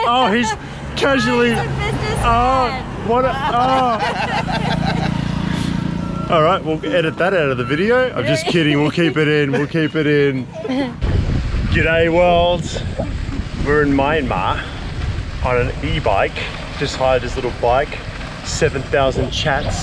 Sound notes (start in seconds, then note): 2.7 scooter engine roaring; 3.3 laughing